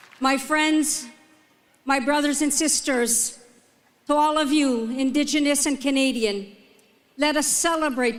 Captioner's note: applause